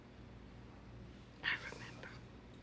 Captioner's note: whispers